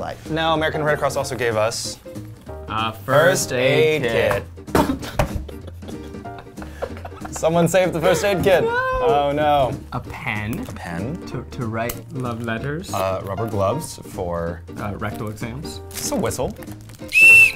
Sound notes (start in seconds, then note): 4.8 laughing; 17.1 shrill whistle